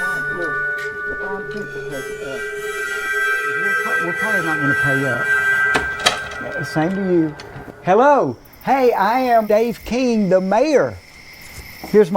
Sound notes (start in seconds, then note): 1.0 Mayor Keen speaks softly